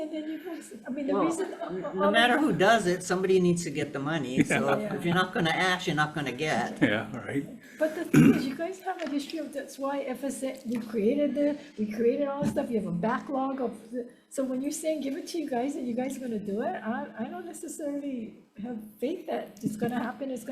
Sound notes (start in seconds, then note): 4.4 chuckling